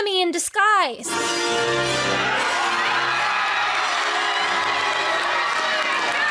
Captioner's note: heroic music; guests cheering